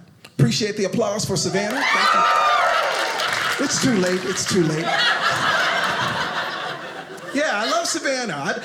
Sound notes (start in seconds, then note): 1.5 audience cheers; 4.9 audience laughing